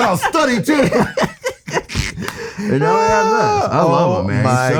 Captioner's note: laughs